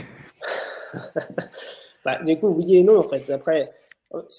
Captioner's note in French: rires